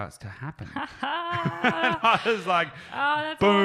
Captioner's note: all laughing